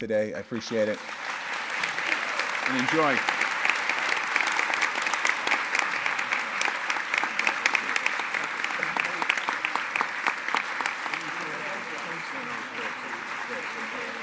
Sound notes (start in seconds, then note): 2.1 applause